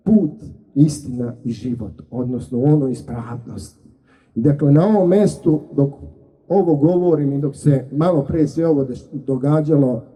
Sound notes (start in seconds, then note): none